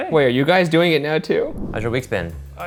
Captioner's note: air whooshing